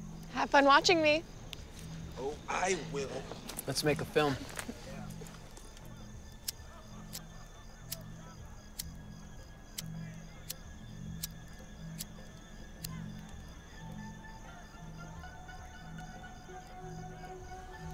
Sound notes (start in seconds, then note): 6.0 suspenseful music; 7.8 lighter clicking